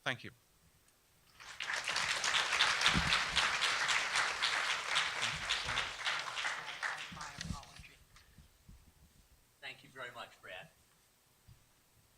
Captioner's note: applause